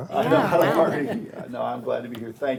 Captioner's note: board members laugh